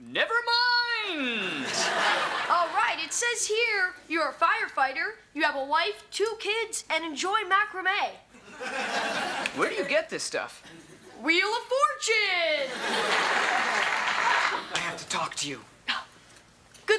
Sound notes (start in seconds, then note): 1.5 audience laughs; 8.4 audience laughs; 12.7 prerecorded applause plays